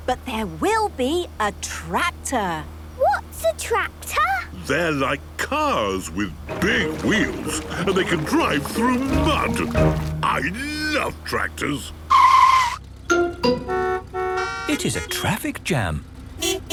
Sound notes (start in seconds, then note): 12.4 tires screeching, horns honking